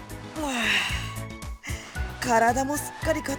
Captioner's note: groan